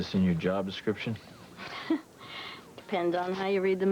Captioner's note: laughs